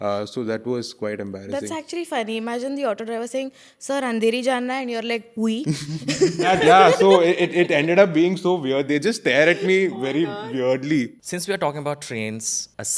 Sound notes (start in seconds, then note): 5.7 laughs